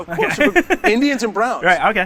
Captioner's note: laughs